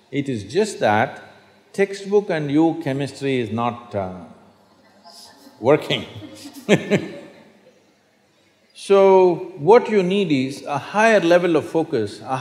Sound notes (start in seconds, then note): 7.2 laughs